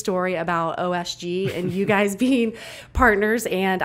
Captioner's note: laughs